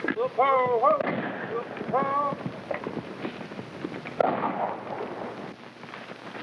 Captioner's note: cowboys whooping; gun firing